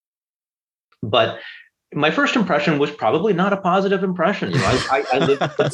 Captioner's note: laughter